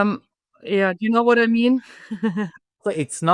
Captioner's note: laughs